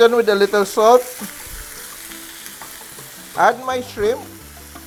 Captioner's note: sizzle